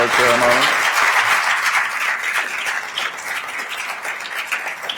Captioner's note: attendees applauding